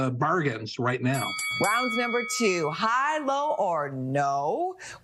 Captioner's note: bell dings